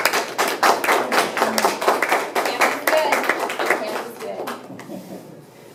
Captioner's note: applause